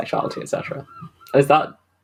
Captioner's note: seagulls cawing